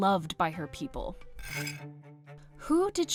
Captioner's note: scrape